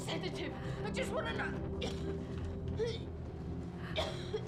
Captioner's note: coughing